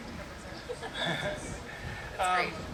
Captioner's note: laughs